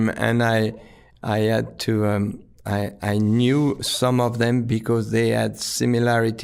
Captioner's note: none